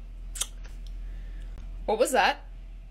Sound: smacks lips

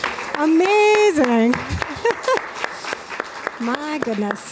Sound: applause

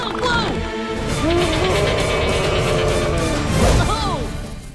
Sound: screaming

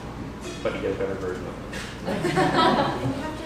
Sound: laughter

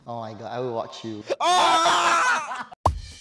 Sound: screams in disbelief

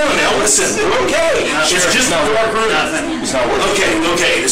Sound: arguing

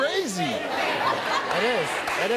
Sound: audience laughs

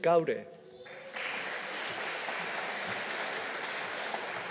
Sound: audience applauding

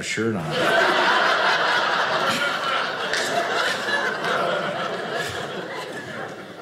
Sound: audience laughing

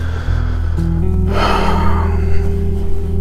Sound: deep sigh

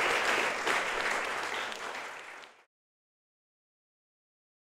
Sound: applause

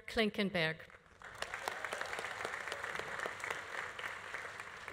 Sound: audience applauding

